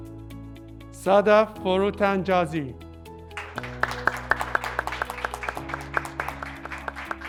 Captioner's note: graduates clapping